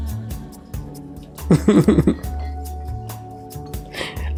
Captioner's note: laughs